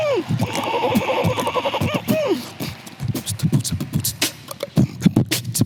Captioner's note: beatboxes